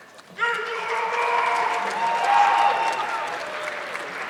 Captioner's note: audience clapping